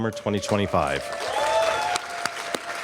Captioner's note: applause